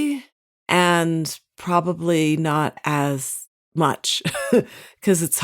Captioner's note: chuckles